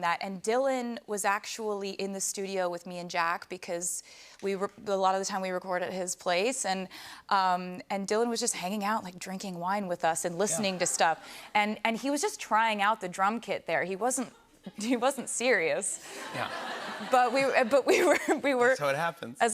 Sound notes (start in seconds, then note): 16.0 laughter